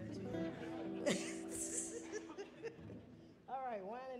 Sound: laughing

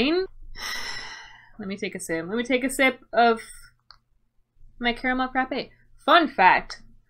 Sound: sigh

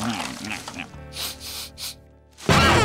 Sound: sniffing

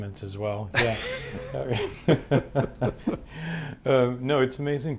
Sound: both laughing

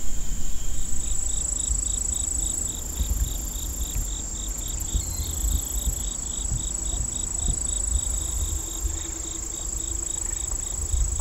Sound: crickets chirping

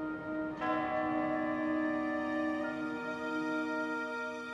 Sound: bell chiming

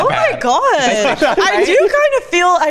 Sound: laughs

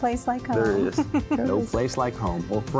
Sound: giggle

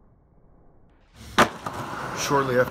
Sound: soft thud

